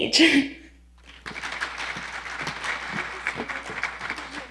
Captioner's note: audience applauding